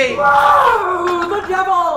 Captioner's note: angry shout